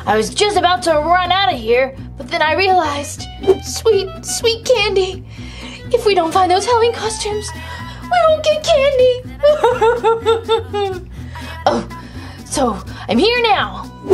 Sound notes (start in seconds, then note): 9.2 Gekko sobs